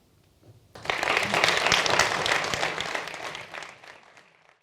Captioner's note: audience applauding